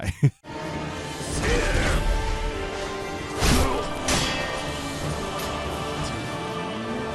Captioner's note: suspenseful music; swords clashing